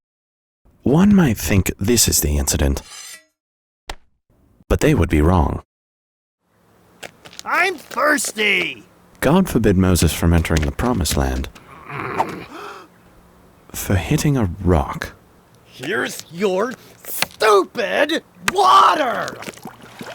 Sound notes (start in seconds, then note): 11.6 Moses grunts; 11.6 man gasps